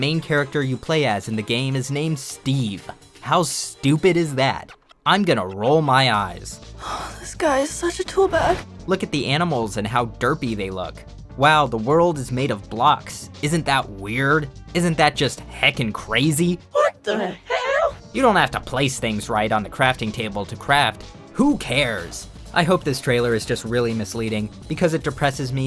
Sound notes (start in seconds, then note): 6.8 sigh